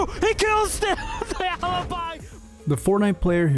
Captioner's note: laughs